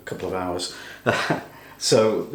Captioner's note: laughs